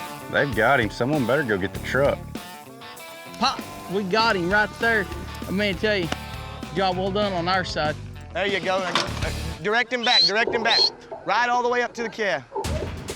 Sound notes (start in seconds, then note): 6.0 claps; 9.9 whistles